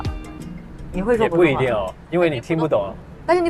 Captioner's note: Mandarin